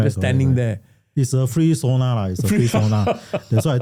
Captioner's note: laughter